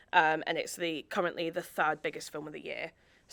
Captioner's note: none